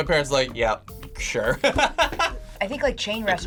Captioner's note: laughs